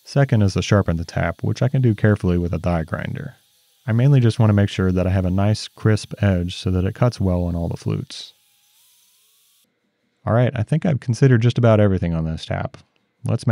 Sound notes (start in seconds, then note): 8.6 tool grinding